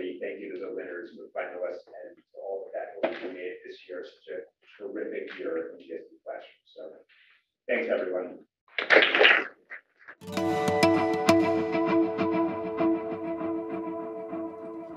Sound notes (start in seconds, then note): 8.8 applause